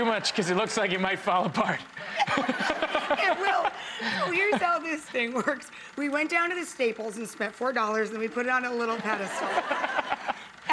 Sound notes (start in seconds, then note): 1.8 audience laughter